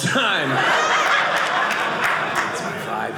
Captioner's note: audience laughing